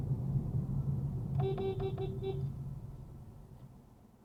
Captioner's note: beepbeepbeepbeep